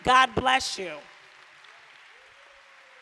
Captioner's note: applause